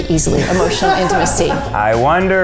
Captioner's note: all laughing